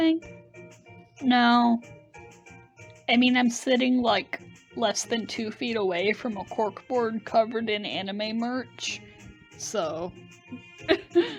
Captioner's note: laughs